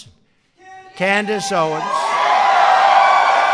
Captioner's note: applause